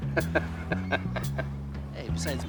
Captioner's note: laughing